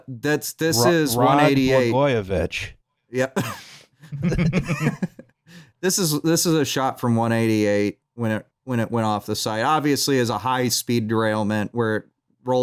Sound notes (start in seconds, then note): 3.3 laughs; 3.3 laughter